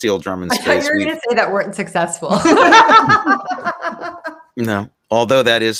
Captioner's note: everyone laughing